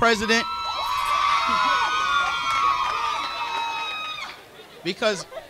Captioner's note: crowd cheering